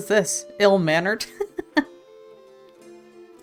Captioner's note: laughs